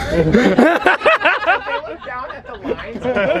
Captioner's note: all laughing